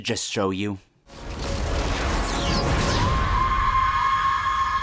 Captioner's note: banshee scream of doom